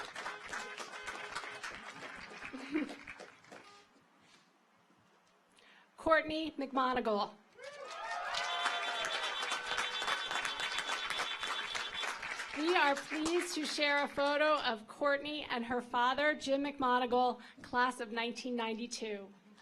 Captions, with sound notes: Courtney McMonagle. (audience applauds) (car horns honking) We are pleased to share a photo of Courtney and her father, Jim McMonagle, Class of 1992.